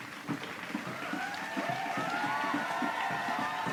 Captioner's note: clapping, crowd cheering